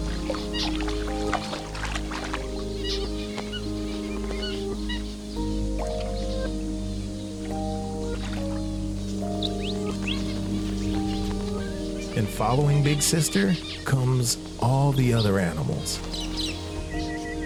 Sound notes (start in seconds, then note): 0.9 water splashes; 3.7 birds warble; 6.4 soft music